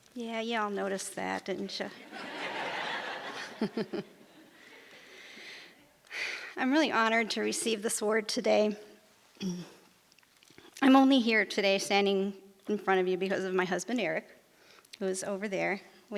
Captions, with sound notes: - Yeah, y'all notice that, didn't you? (giggles) (audience laughs) I'm really honored to receive this award today. I'm only here today standing in front of you because of my husband, Eric, who is over there.